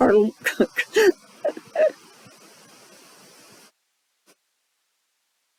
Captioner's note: instructor laughs